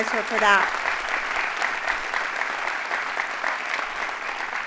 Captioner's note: audience applauding